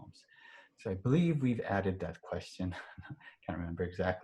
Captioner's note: chuckles